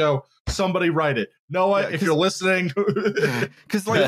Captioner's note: thump on desk